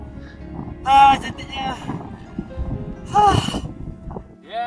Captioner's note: sigh